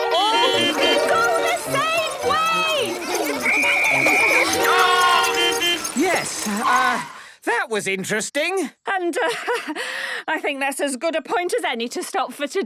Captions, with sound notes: (beeping) --go the same way! (whistle blowing) - Stop!! (beeping) Yes, uh... that was interesting. - And, uh, I think that's as good a point as any to stop for today.